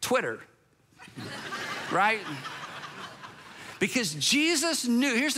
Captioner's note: congregation laughs